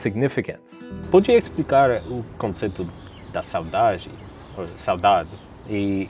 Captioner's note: speaking in Portuguese